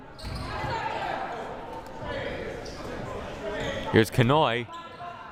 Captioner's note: crowd murmuring